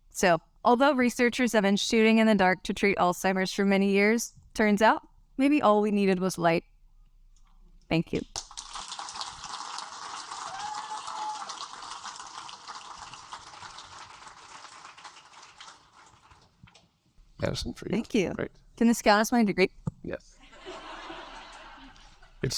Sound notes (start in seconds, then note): 8.4 audience applaud; 20.4 audience laugh